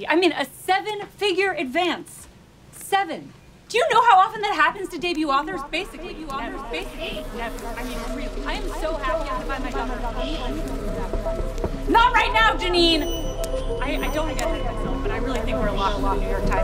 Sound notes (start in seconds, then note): 6.7 fly buzzing; 6.7 suspense music; 10.7 Janine knocks